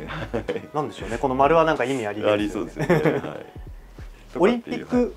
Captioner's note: laughs